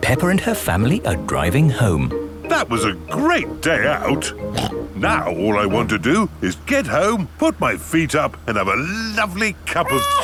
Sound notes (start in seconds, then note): 4.5 snorts